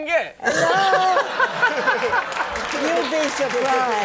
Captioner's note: laughing